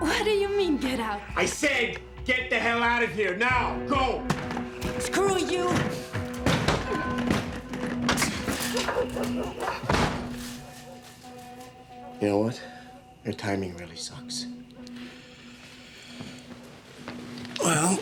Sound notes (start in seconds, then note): 6.6 door rattles; 8.0 dogs barking; 10.0 door slams